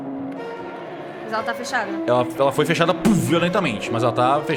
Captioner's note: slam!